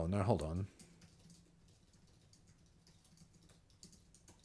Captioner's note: silence